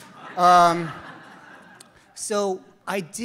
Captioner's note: audience laughs